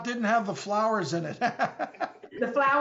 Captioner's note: laugh